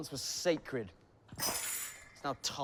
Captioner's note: object clatters